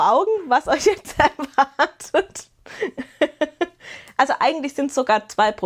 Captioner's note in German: gelächter